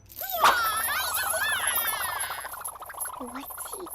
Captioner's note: nun chucks whooshing